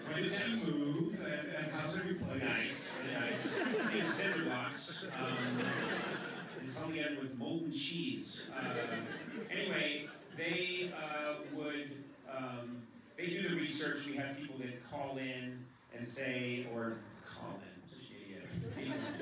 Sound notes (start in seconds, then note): 5.6 laughter